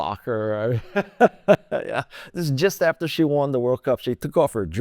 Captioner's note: laughter